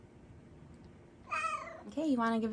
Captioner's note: meows